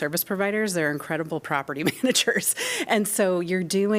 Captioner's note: laughter